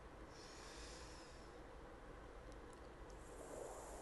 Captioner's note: exhales; inhales